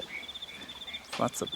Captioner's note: nocturnal animal sounds